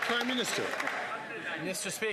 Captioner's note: some Applause